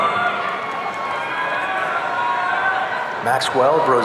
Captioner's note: audience cheering